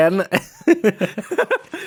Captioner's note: laughs